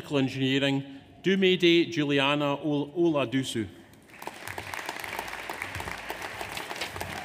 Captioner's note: audience applauds